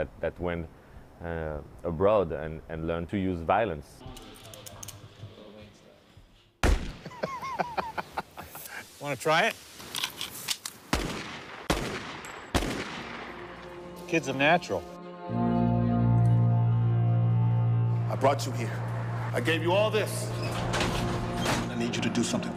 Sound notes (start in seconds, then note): 6.6 gunshot; 7.0 laughing; 14.9 gunshots